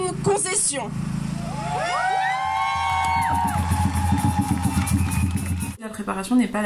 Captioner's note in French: Applaudissements